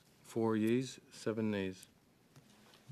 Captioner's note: speaking French